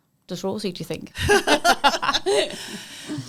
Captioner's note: laughing